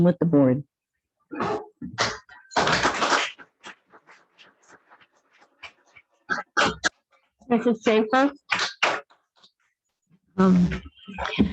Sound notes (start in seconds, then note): 3.1 audience applauds